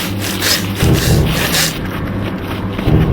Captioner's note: panting